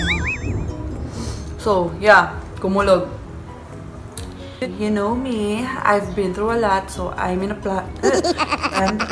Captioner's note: pllleepp